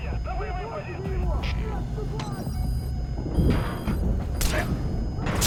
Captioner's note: characters yelling